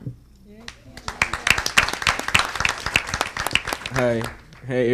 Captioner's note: audience applauding